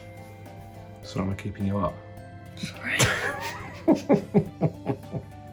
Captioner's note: chuckles